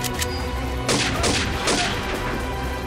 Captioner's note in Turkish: Silah sesi